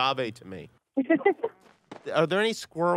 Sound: laughing

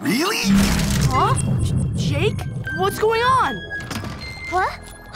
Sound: none

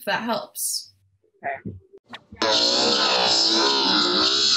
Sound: warped audio

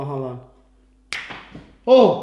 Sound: snaps fingers

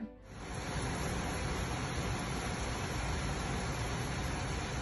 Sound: heavy rain pouring

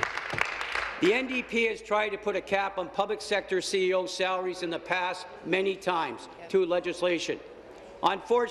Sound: applause

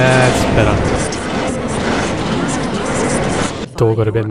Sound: garbled sounds of the train

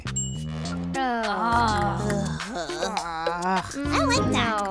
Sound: both groaning

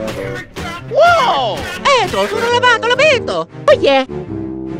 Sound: italian gibberish

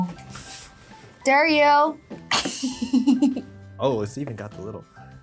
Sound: laughs

